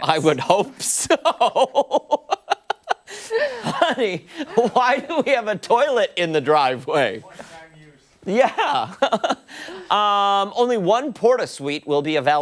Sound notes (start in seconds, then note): 5.7 laughter